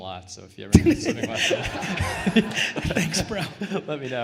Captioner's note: laughing